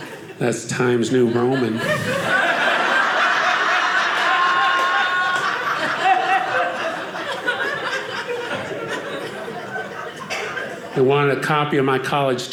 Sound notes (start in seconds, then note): 2.0 audience laughing